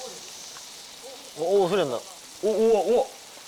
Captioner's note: sound of meat being placed on the grill